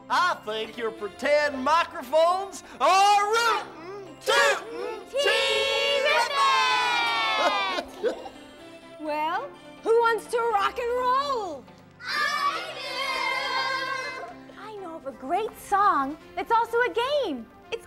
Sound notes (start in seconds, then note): 7.0 Huggabug laughs